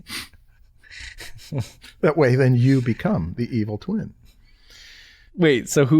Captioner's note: chuckles